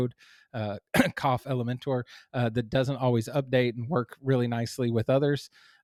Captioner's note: coughs